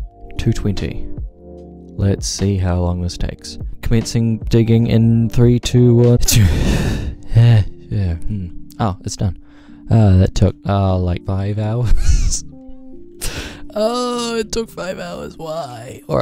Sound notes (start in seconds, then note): 6.2 bad sneeze and other noises; 12.5 laughs